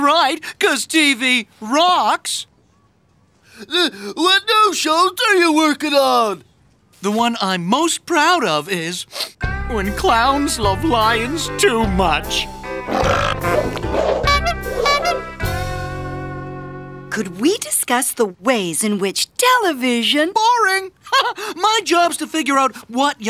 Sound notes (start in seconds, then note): 9.1 sniff; 12.8 burping; 14.2 honking